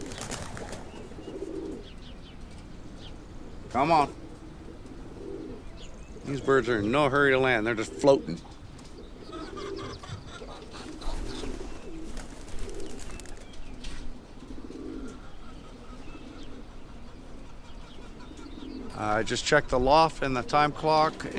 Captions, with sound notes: Come on These birds are in no hurry to land. They're just floating. (chickens clucking) (wings fluttering) I just checked the loft and the time clock